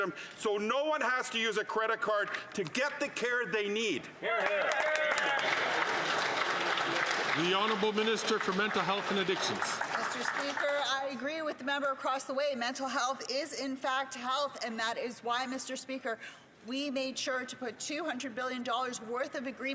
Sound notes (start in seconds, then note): 10.6 some Applause